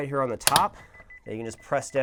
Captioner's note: beeping sound